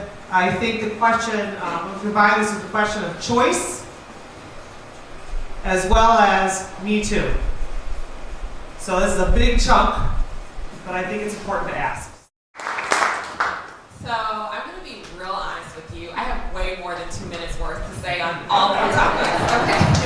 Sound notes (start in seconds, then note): 12.5 applause; 18.7 laughter